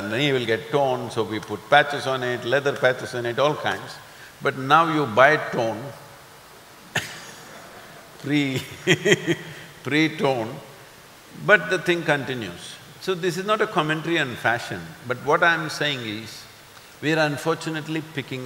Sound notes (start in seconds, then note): 6.9 laughs; 6.9 few laugh